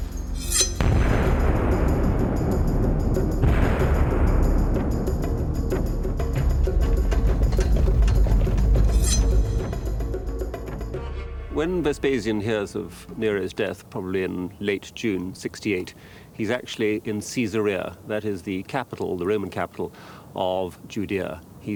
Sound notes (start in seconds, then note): 0.1 sword ringing; 0.3 dramatic music; 8.9 sword ringing